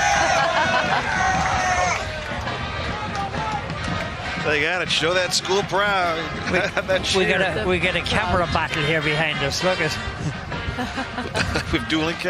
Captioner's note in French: laughing